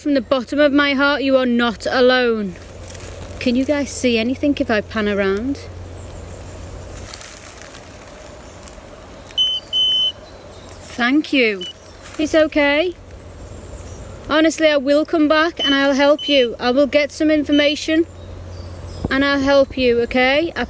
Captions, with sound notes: from the bottom of my heart, you are not alone. Can you guys see anything, if I pan around? (birds chirping) (beeping) Thank you, it's okay. Honestly, I will come back and I will help you. I will get some information and I'll help you, okay.